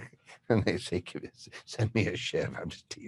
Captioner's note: laughs